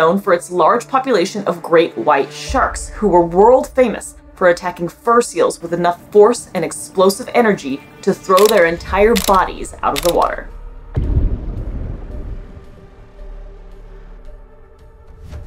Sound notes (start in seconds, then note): 10.7 background music; 11.0 muffled large splash sound; 12.2 background music